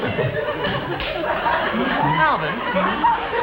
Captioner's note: audience still laughing